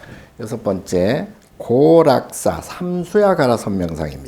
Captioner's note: speaking Korean